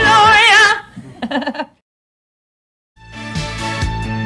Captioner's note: laughing; upbeat music